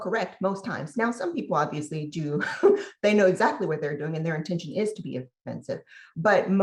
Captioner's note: laugh